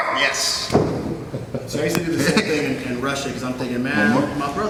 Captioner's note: laughs